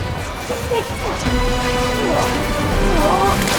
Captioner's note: groaning